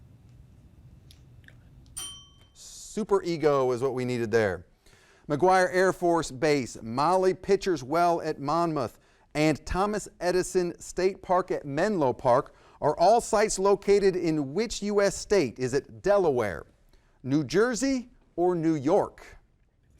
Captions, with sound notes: (bell ringing) - Superego is what we needed there. McGuire Air Force Base, Molly Pitchers Well at Monmouth, and Thomas Edison State Park at Menlo Park are all sites located in which U.S. state? Is it Delaware, New Jersey, or New York?